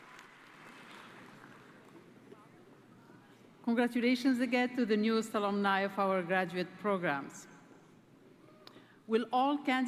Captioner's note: applause